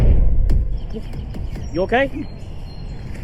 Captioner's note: birds chirping